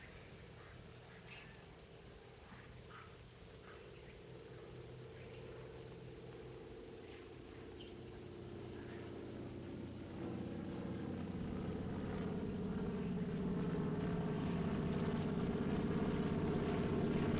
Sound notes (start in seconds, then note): 3.3 airplane In Distance; 11.7 airplane Approaching